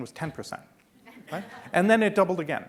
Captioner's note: laughing